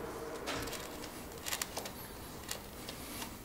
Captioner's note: soft scratching